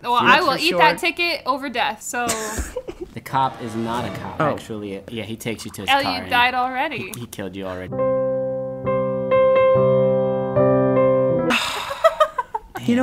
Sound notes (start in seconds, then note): 2.3 laughing; 3.4 dramatic music; 7.7 sad music; 11.5 sighing